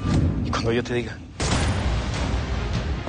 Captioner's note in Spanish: Disparos